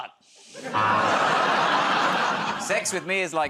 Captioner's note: laughter, buzzer